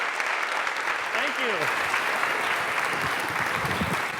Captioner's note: applause